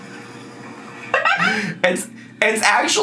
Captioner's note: laughs